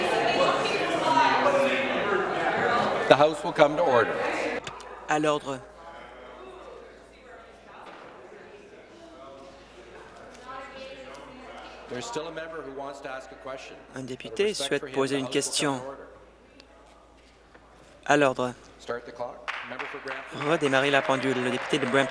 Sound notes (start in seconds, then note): 2.7 conversation din